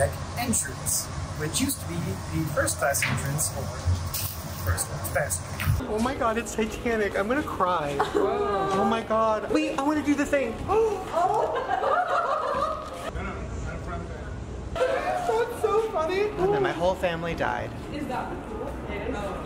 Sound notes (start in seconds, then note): 11.2 laughs like hienas